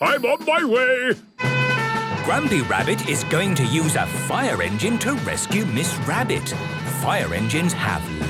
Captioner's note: sirens